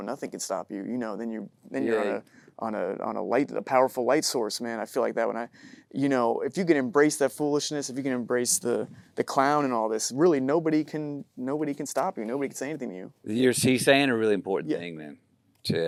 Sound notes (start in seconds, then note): none